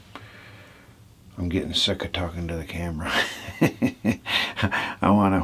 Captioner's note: laughing